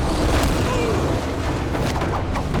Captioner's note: groaning